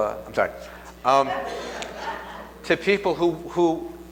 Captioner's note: laughs